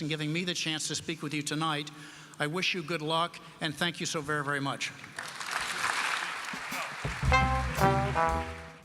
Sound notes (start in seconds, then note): 5.0 applause